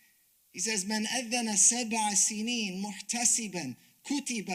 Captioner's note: speaks Arabic